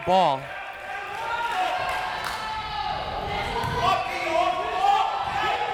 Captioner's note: crowd members shouting